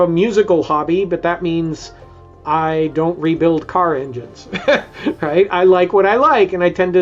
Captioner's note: laughs